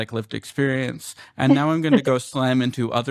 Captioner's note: laughter